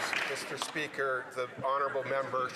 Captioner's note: some Applause